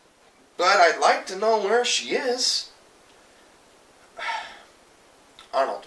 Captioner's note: sigh